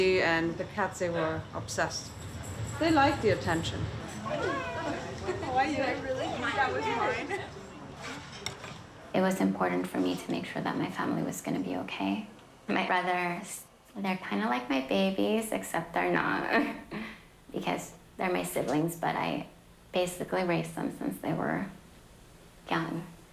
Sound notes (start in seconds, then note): 6.5 overlapping chattering; 16.5 laughs